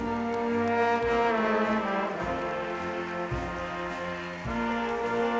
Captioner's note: audience applauds